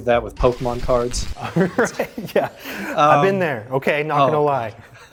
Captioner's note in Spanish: risas